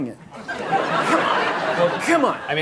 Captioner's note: audience laughing